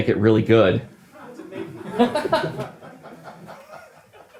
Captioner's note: team laughing